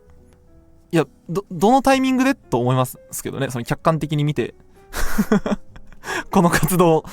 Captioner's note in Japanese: 笑い